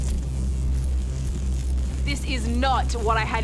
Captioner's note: buzzing